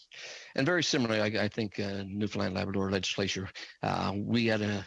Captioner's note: speaking French